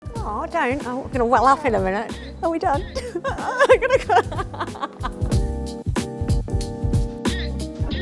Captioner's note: laughs